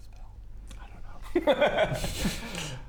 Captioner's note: nervous giggle